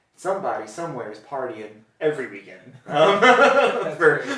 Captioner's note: laughter